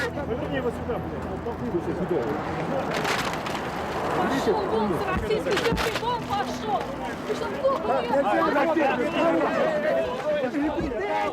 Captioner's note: crowds yelling